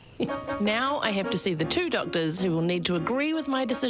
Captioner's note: laughs; voiceover